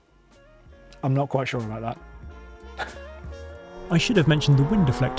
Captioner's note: chuckles